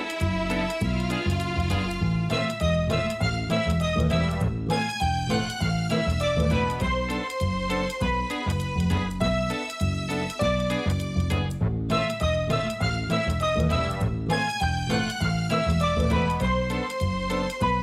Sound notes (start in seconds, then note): none